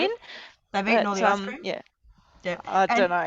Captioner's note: talking in unison